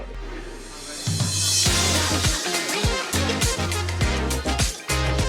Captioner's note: background chatter; # upbeat music #